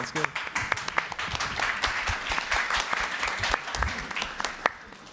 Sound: audience applauds

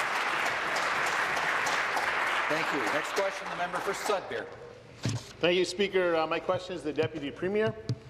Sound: applause

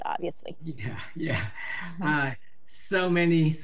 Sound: chuckles

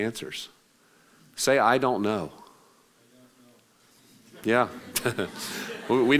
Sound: laughing

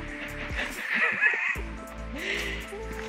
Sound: laughter

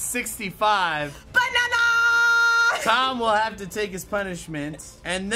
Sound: chuckles

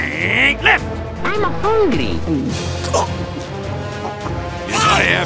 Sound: gulps & chokes on grenade

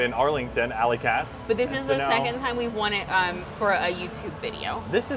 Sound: none

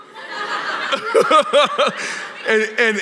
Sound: laughter; laughs

